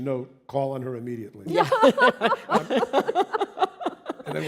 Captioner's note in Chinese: 笑聲